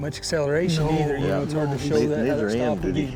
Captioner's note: all chattering